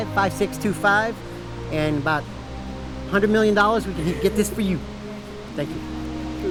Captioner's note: chuckles